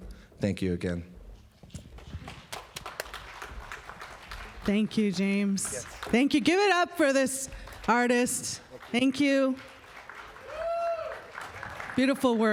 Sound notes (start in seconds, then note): 3.6 applause